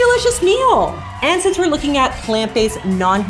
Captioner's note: audience cheering